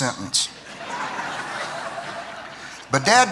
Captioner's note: laughter